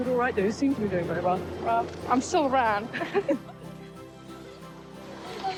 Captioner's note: chuckling